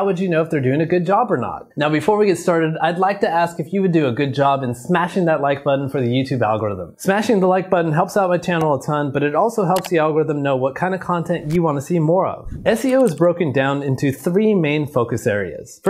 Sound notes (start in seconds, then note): 12.4 video clip whooshes